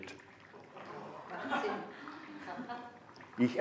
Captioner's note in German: Raunen und Gelächter im Publikum